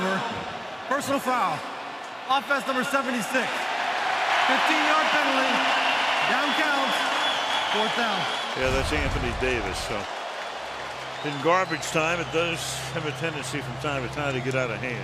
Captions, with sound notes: After the play was over, personal foul, offense number, 76. [cheering] 15-yard penalty. Down counts, fourth down. Yeah, that's Anthony Davis. So in garbage time, it does have a tendency from time to time